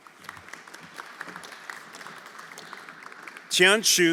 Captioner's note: everyone applauding